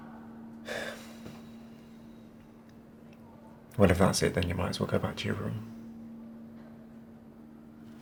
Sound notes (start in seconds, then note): 0.6 sighing